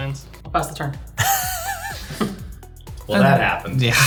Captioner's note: laughing